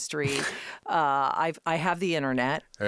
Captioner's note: Josh laughing